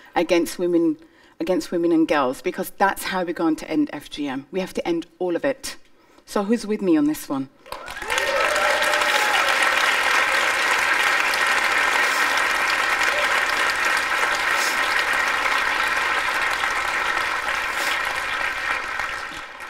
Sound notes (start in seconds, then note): 7.8 cheering and applause